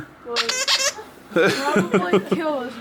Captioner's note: squeaks; laughs